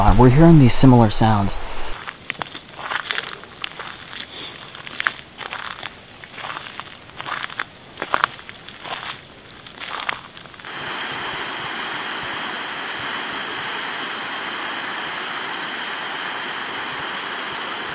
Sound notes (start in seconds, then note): 1.9 footsteps crunch; 11.2 water flows